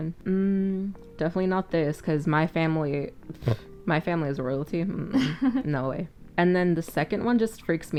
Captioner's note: scoffs